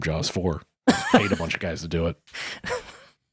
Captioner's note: laughing